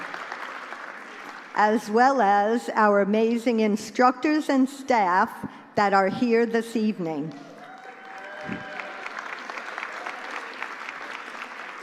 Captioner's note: applause; applause